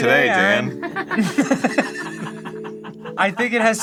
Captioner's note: crew laughing